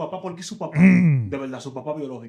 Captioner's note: speaking In Foreign Language